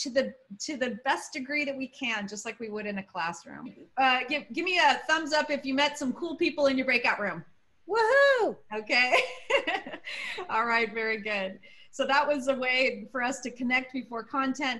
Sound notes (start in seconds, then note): 9.1 laughter